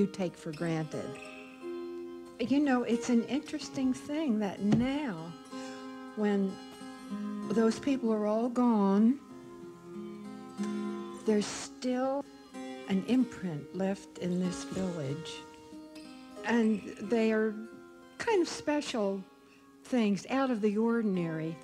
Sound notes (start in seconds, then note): 4.7 slaps table for emphasis